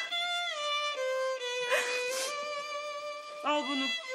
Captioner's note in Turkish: Ağlıyor